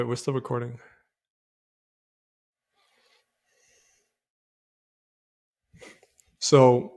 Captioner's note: silence